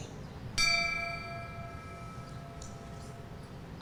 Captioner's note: bell rings